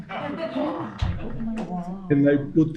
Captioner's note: audience chuckling